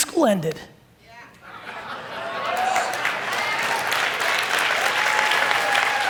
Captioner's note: audience cheer and applaud